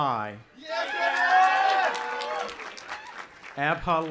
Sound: audience applauding and cheering

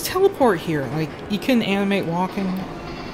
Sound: engine chugging

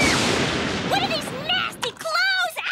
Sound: screaming

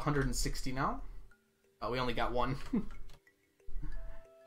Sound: giggles

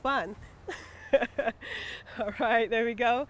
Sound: laughs

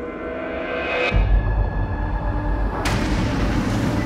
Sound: car moving

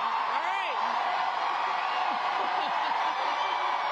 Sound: applause

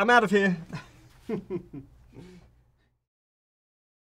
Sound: chuckling

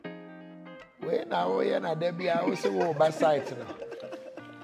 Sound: sarcastically

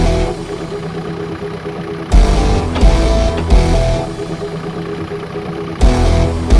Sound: jeep enging revving

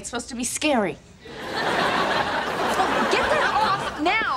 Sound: audience laughing

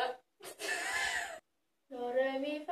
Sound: laughts

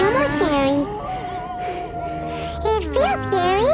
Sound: howling

